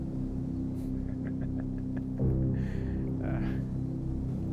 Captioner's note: laughing